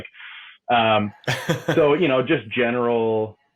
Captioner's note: laughs